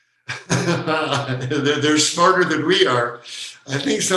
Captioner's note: laughing